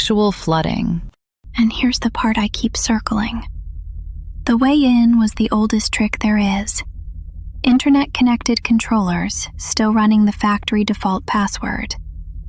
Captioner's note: whispers